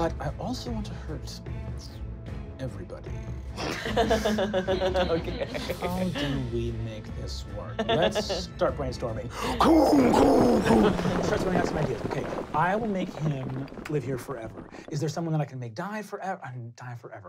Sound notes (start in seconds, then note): 3.5 laughing; 9.4 crumbling